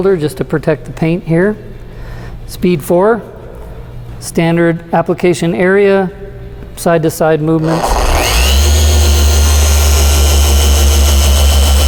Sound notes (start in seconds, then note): 7.6 squealing sound